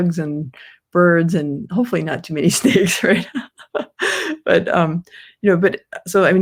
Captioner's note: laughs